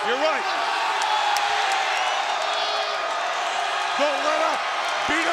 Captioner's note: audience cheering